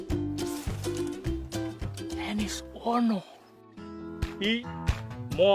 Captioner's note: speaking foreign language